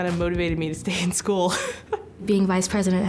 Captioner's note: laughing